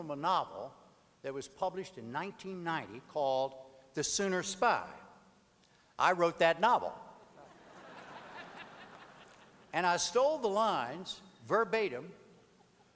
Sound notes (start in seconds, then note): 7.4 audience laughter